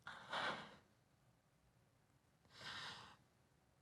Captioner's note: Ludo sobbing